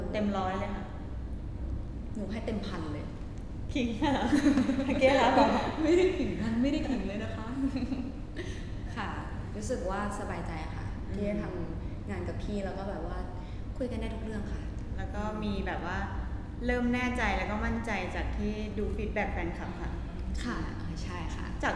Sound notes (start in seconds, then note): 4.3 laughs